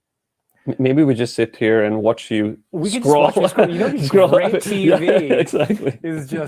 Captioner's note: laughs